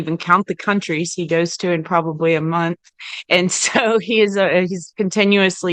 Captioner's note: laughs